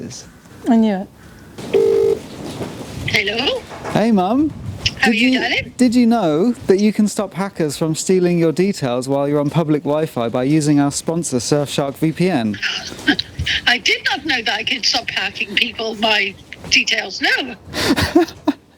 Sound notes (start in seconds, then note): 1.6 phone ringing; 17.7 laughing